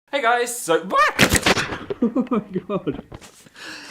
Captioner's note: camera falls